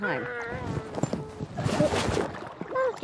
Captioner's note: splash